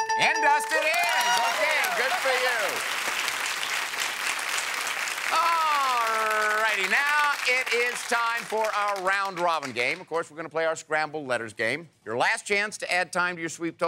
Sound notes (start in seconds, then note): 2.9 applause